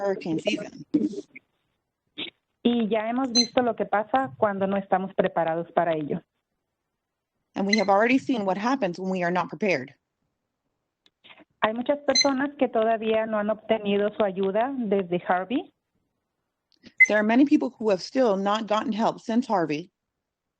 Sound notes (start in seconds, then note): 4.3 speaking Spanish